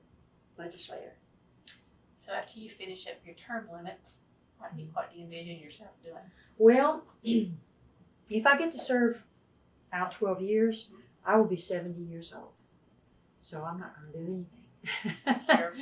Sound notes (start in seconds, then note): 14.8 laughs